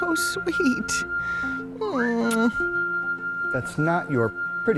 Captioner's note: whistling